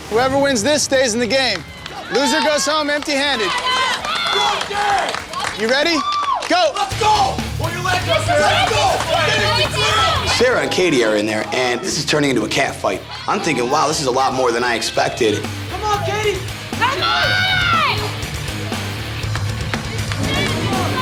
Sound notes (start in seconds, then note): 3.9 crowd cheering; 6.8 rock music; 7.3 crowd cheering; 15.9 rock music; 16.3 crowd cheering